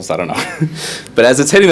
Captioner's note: chuckles